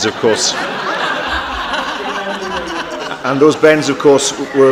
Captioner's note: laughter